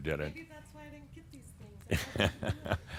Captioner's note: Adamus chuckles